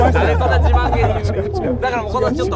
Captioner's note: laughs